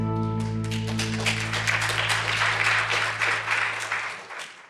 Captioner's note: light music; audience clapping